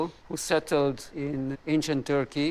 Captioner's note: none